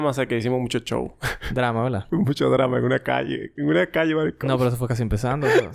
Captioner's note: laughs